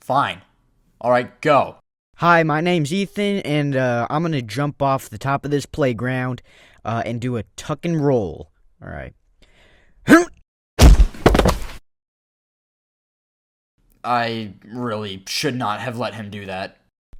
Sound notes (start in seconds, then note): 10.1 grunt